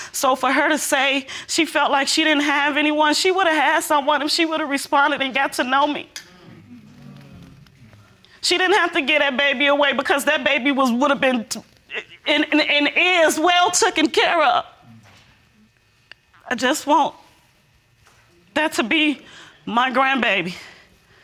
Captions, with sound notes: So, for her to say, she felt like she didn't have anyone, she would have had someone if she would've responded and got to know me. (AUDIENCE MURMURING) She didn't have to give that baby away, because that baby would've been... And it is well taken care of. (VOICE SHAKING) I just want... That to be my grandbaby,